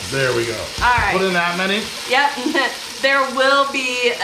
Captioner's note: chuckling